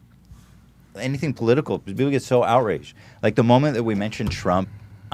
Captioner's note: none